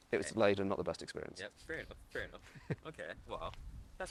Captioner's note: laughs